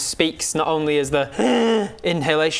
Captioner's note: hhhrrgh